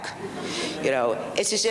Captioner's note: audience laughs